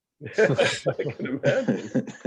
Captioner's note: laughs